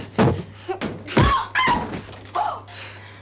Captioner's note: screams